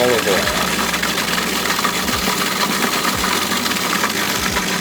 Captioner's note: food processor grinding